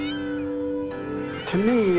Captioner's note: birds cawing